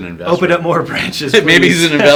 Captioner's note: laughs